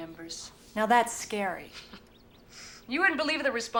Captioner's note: chuckles